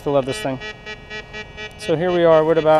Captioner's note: detector beeps